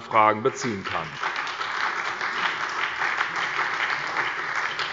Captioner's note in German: Beifall bei der SPD